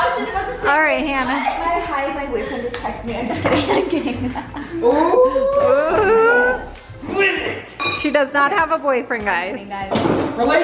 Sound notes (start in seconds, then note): 1.1 laughs; 2.2 giggles